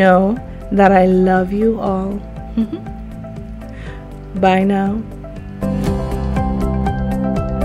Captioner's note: giggles